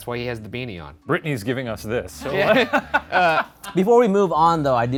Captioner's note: laughing